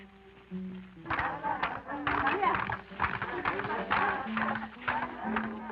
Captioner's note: women clapping and chanting